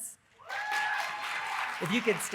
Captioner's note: audience cheering and applauding